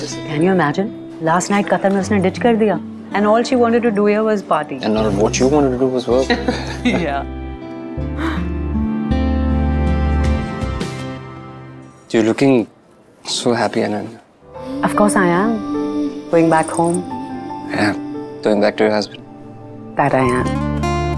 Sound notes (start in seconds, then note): 6.2 both laughing